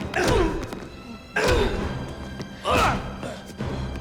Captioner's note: Dalton grunting; Gammon grunting; blows thudding